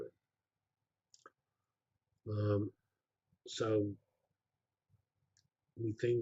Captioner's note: pause